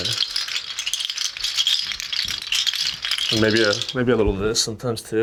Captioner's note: shells rattling